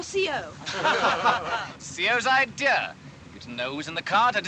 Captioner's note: all Laugh